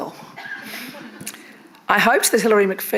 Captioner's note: attendees laughing